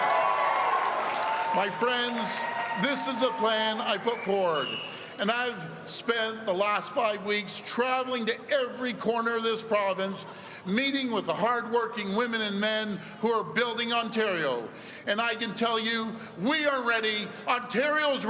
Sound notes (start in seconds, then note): 0.0 cheering